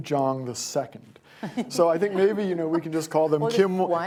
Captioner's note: laughter